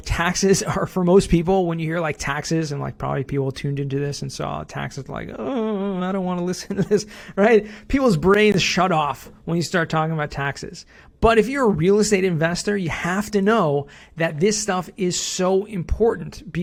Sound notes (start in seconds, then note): 5.4 whimpers